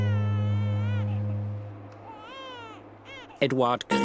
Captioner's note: baby cries